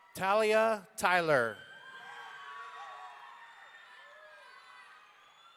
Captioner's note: audience cheering